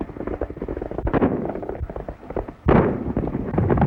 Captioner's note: gunshot